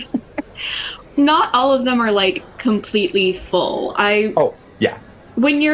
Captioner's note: light laughter